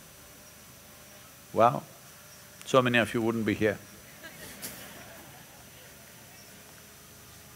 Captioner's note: few laugh